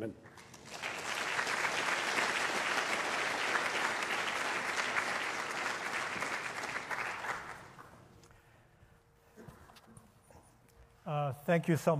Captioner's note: applause